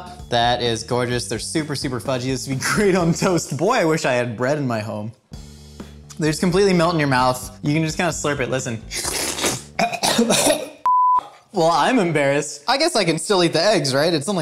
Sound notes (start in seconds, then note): 8.9 slurping loudly; 9.7 coughing loudly